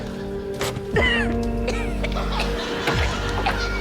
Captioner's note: coughs